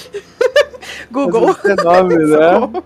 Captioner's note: laughs